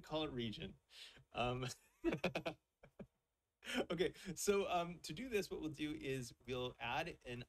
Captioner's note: chuckles